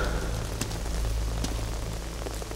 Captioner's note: Footsteps